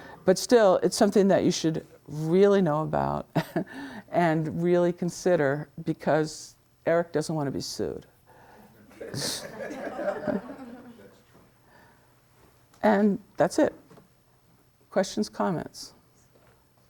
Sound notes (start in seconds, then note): 3.4 laughs; 8.8 students laughing